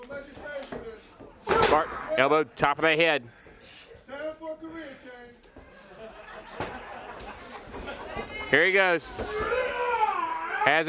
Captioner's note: crowd chatter